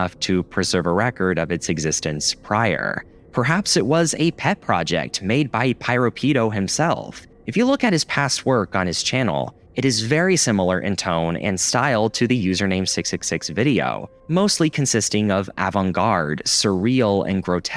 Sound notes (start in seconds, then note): none